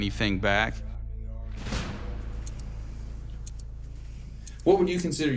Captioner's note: clock ticking